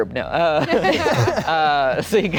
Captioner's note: everyone laughing